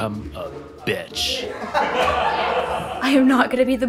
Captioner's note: group laughs